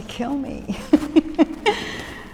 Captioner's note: laughs